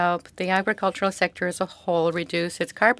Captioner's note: speaking French